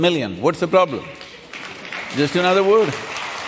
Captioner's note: applause